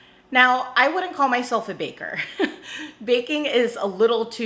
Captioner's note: chuckles